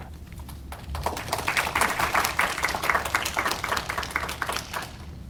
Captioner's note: audience applauding